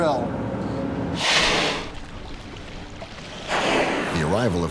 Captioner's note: blowholes spraying